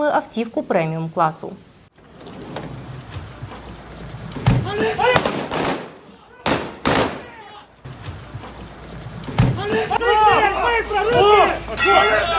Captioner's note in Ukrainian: стріляють